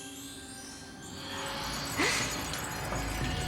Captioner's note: gasps